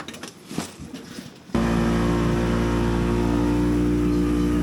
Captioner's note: boat engine roaring